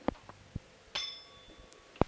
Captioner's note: bell Sound